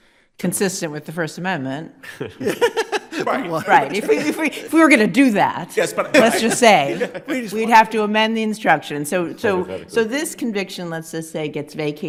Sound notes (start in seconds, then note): 2.0 justices laughing